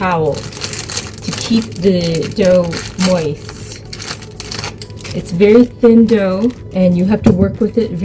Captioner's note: pkg crinkle